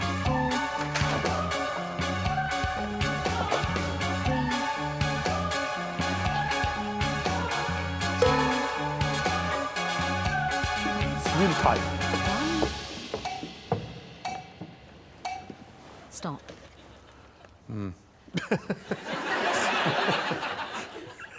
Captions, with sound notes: Four. Three. -Two. -[gong] -It's really tight. -One. [music stops] Stop. Mm. [laughter]